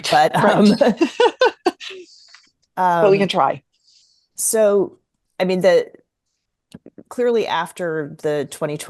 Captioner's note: laughs